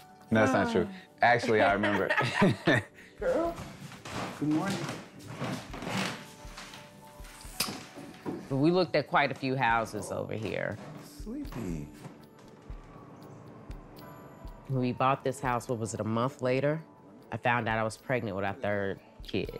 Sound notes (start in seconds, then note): 1.5 both laughing; 7.5 lips smacking